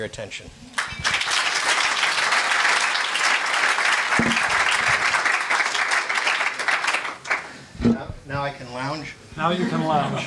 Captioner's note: audience applauds